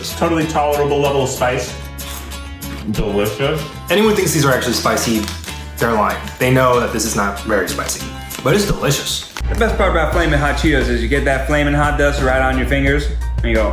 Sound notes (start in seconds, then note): 1.9 crunch